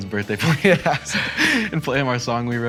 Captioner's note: boys laughing